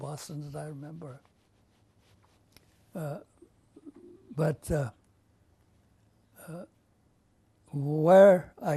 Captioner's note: pauses for 3 seconds